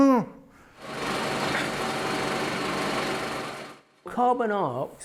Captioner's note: film reel spins